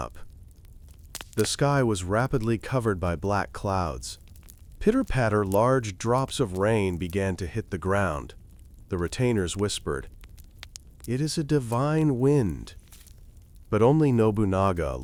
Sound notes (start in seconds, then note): 6.2 pitter-patter